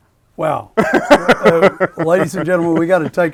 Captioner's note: laughing